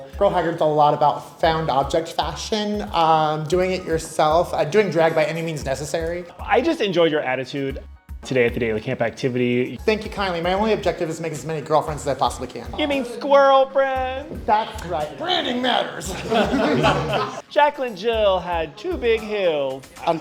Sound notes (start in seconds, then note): 15.6 everyone laughing